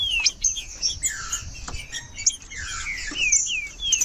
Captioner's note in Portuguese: trinca ferro cantando